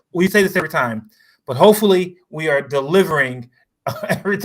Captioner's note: laughs